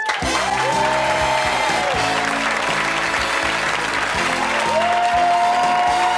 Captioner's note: audience applause; upbeat music